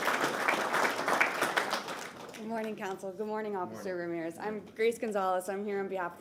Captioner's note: applause